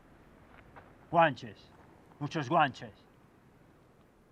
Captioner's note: in Spanish